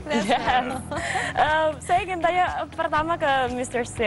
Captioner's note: non-english speech